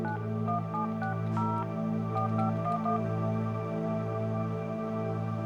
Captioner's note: phone keypad beeping